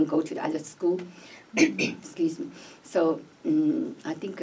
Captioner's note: clears throat